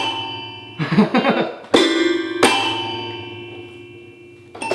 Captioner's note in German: lacht